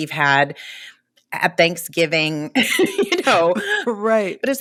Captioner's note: laughter